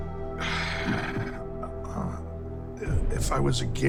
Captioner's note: sighs